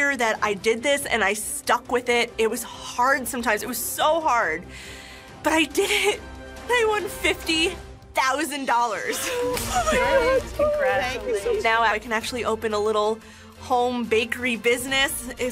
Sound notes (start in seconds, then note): 6.6 gasps